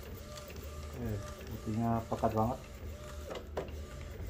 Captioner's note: printer machine sound